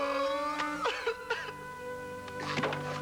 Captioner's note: sobbing